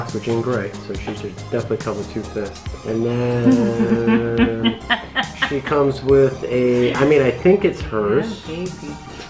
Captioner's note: laughs